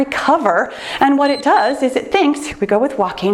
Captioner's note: timer beeps